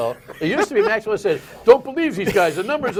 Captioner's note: laughter